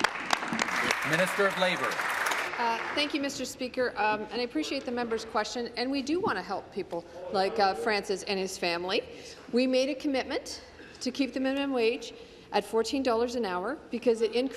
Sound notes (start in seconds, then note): 2.1 applause